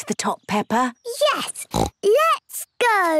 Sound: snorts

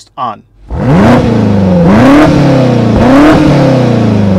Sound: car revving

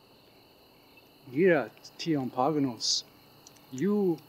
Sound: speaking in foreign language

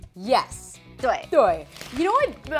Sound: both speaking in Mandarin

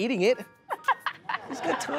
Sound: laughter

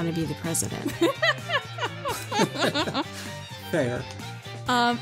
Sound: laugh

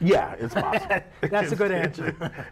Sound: laughs

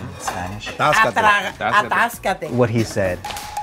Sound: speaking foreign language

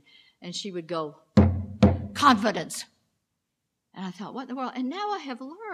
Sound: pounding

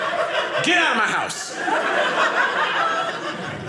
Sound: audience laughing

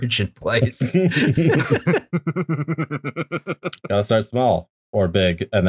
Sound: laughter

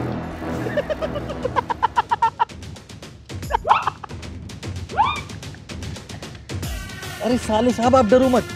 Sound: laughing

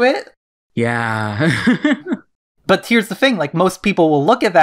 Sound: laughs

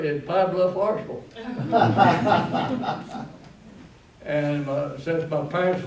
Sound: laughter

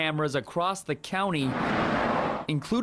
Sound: / :nats of cars

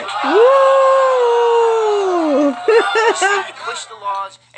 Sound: shouting, whooping

